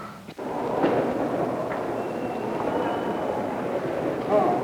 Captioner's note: indiscriminate chatter